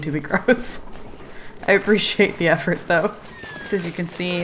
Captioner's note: laughs